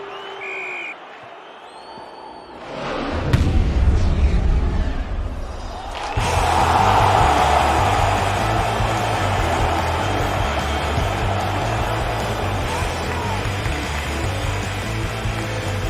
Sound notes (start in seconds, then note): 0.0 meniupkan peluit